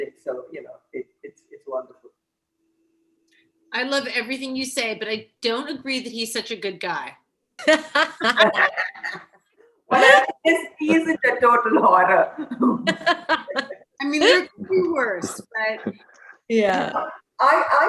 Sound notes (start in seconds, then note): 12.4 laughter